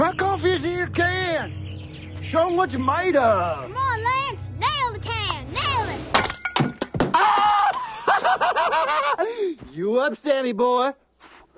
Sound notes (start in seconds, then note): 7.5 Joe laughs